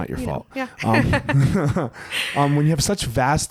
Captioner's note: both laugh